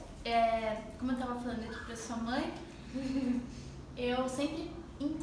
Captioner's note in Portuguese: risos